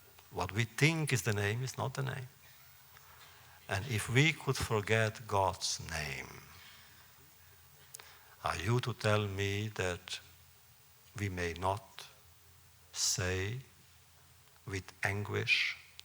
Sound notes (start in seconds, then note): none